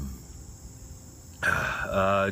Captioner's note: clears throat